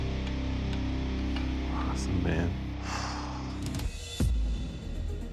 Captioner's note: sighs